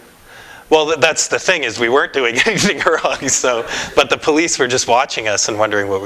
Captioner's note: laughs